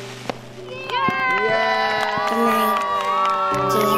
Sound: cheering

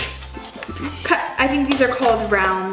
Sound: laughs

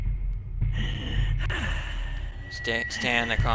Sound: more soft breathing

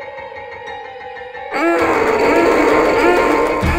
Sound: aggressive growl

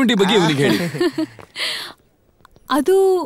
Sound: laughs

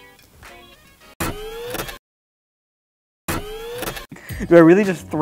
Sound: mechanical whirring

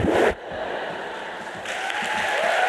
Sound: laughter; applause

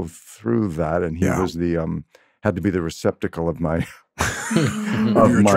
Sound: laughs

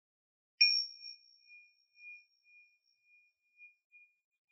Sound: bell chiming

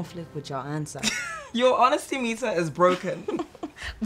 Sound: Efosa laughs; laughter

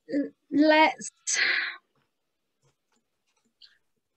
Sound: silence

